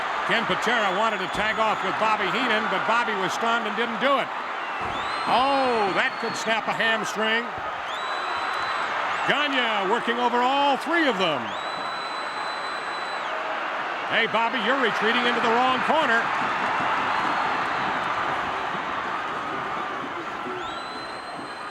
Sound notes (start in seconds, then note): 8.4 crowd cheers